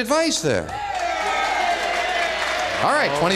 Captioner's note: cheering